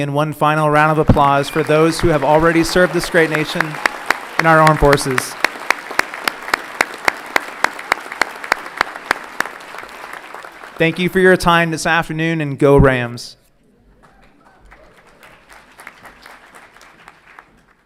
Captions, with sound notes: Please join me in one final round of applause, for those who have already served this great nation in our armed forces. (everyone clapping) Thank you for your time this afternoon and go Rams! (audience clapping)